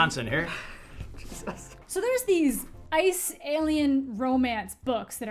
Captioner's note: React chuckles